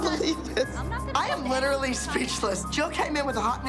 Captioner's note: laughs